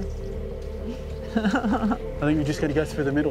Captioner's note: laughs